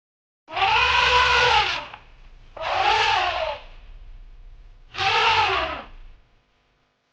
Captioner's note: animal Sound